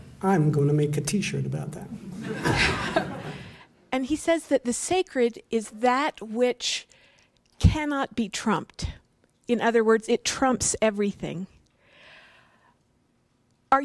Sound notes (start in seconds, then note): 2.1 laughter